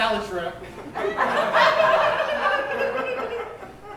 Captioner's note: audience laughs